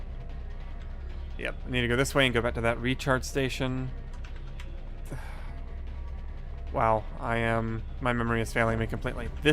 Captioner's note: sigh